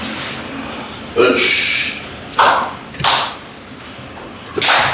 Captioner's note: foot stomps